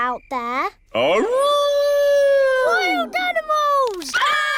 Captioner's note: howling; all screaming